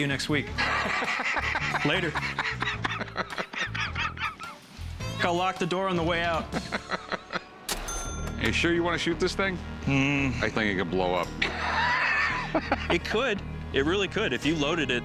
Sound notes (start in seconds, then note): 0.5 laughs; 2.8 laughter continues; 6.5 laughing; 11.4 laughing